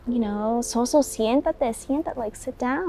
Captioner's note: speaking in foreign language